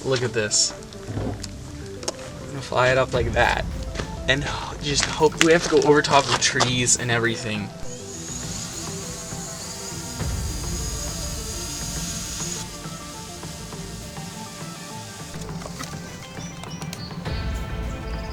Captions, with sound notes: Look at this. I'm gonna fly it up like that, and just hope, we have to go over top of trees, and everything. (motor buzzing)